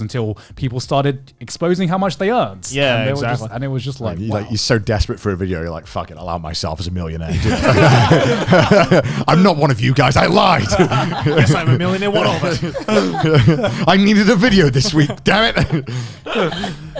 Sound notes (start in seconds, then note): 7.3 all laughing; 11.1 all laughing